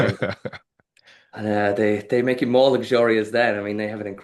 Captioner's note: laughing